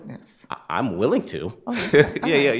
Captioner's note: both laugh